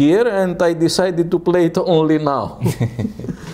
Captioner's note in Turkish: Gülüşmeler